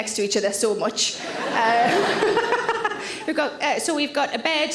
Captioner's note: all laugh